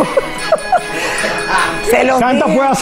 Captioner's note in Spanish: Ríe